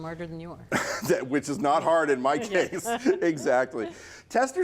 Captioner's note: laughs